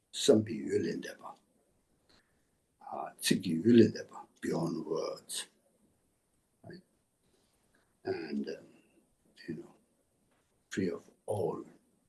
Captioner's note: tibetan